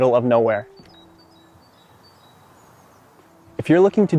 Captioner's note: birds chirping